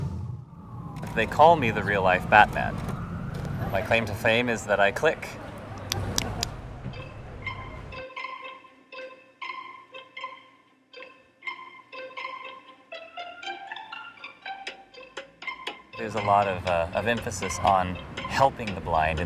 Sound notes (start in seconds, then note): 5.5 making clicking sounds